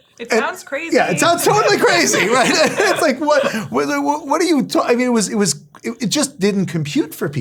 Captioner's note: laugh